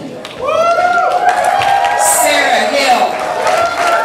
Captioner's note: audience applause throughout